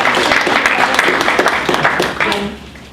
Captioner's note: applause